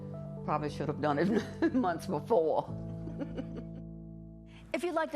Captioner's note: chuckles